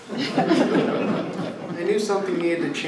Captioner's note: laughter